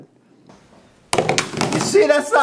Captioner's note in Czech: Telefon spadne na stůl